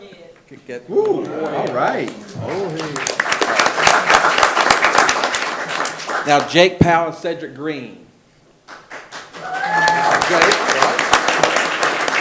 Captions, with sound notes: - A little more then. - Whoo, all right. - Oh hey. (attendees applauding) Now Jake Powell and Cedric Green. (attendees applauding and cheering) This is Jake, right?